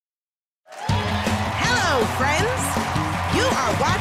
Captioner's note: cheering and applause